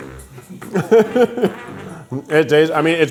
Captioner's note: laughing